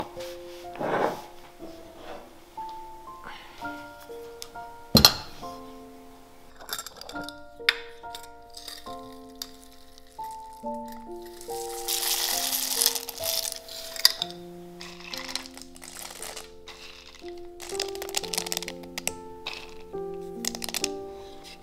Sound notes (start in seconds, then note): 8.4 pumpkin seeds fall into pan; 20.3 stirring & mixing sounds